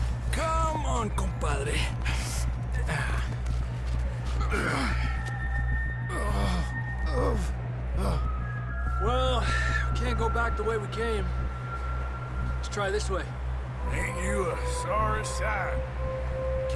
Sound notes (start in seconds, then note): 1.5 in Spanish